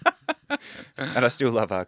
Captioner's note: laughing